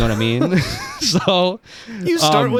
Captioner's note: laughing